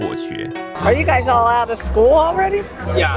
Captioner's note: teacher tone